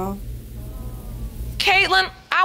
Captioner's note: audience sighs in sympathy